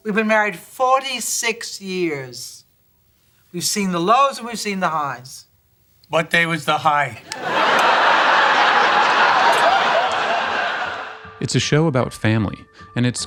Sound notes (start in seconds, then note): 7.2 audience laughing